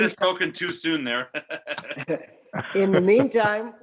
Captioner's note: chuckling